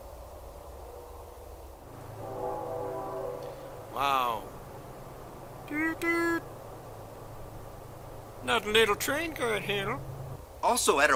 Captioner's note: train whistle